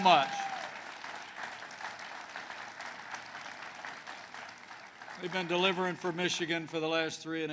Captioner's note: applause